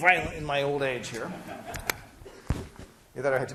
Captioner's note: class laughing